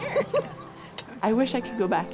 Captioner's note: chatter/laughter